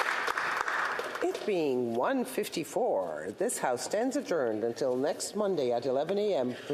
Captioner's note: cheering and Applause